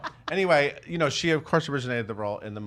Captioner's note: laughs